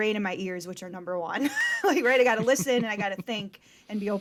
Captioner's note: chuckles